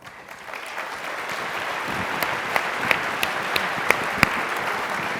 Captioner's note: applause